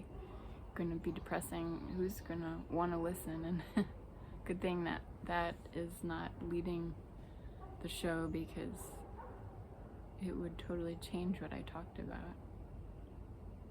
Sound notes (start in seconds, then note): 3.6 laughs